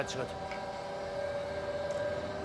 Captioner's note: machine noise